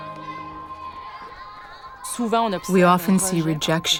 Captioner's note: speaking French with translation